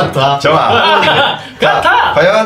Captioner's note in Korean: 웃음소리